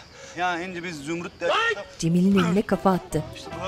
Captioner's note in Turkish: Bağırma sesi